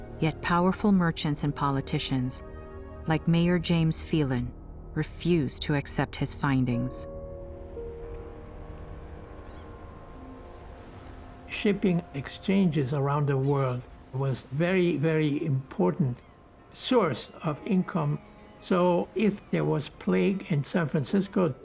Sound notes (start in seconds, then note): 8.2 seagulls squawking